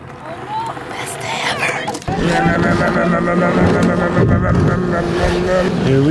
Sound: whispers; imitating whirring

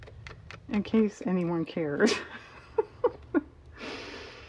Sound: laughs

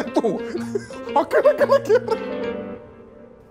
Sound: laughter

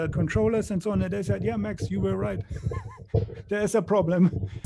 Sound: laughs

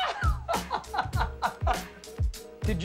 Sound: laughter

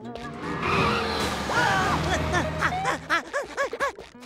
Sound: panting

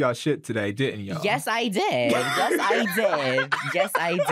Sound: laughs

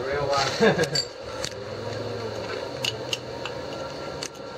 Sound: laughter

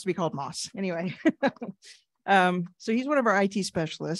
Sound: chuckles

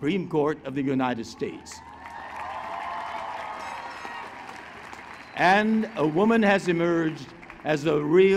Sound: applause

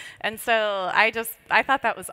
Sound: none

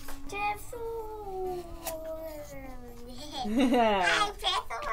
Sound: laughing

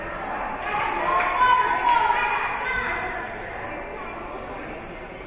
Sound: team chanting

